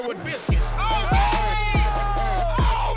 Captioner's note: cheering